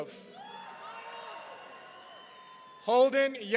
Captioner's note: audience cheering